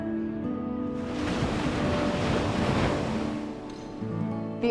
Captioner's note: waves crashing